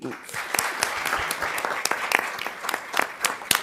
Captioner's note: crowd clapping